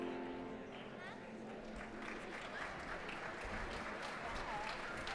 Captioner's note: applause